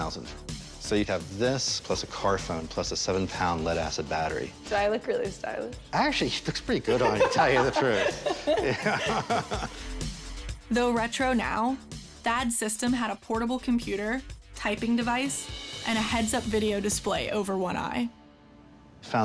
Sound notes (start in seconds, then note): 6.8 both laughing